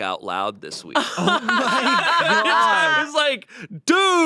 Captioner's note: they laugh